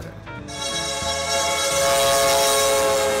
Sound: train whistle blows

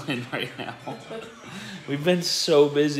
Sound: laughing

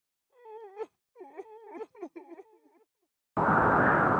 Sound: sobbing

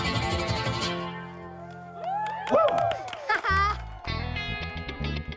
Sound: cheering

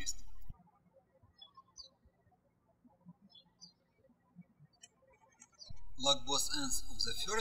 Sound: birds chirping

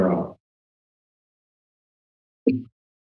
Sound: silence; mic thumps

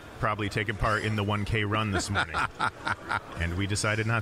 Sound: laughing

